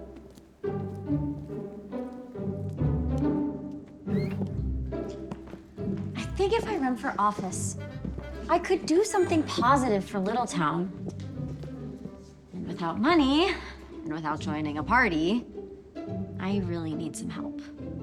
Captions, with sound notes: [door opens] I think if I run for office, I could do something positive for Littletown. And without money, and without joining a party I really need some help.